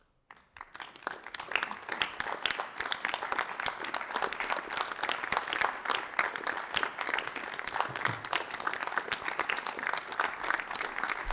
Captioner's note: applause